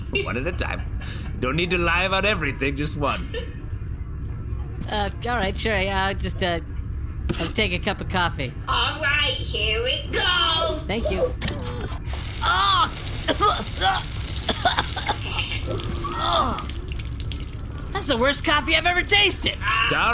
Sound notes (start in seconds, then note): 0.0 stifled laughter; 11.7 mechanical sounds, "coffee" pouring; 17.8 splutters, gags, and spits out the coffee